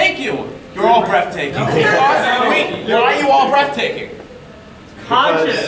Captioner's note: audience laughing